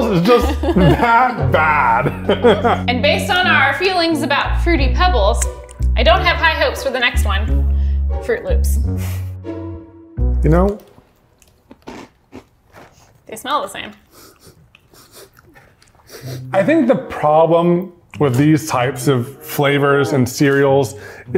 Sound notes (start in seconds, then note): 14.0 sniffing